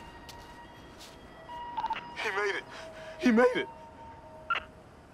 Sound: beeping

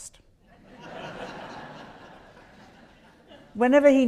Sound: audience laughs

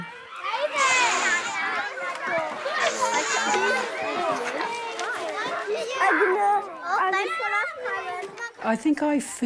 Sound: children shouting

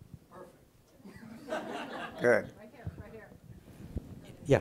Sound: laughing

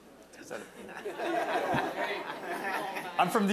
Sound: audience laughing

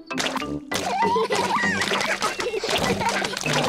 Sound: all laugh

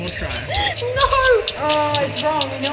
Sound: laughs

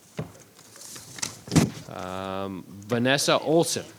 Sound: paper rustling

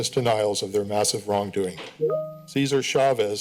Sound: timer sound

